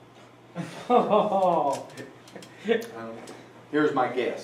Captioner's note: laughter